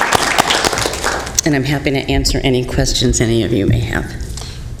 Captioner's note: applause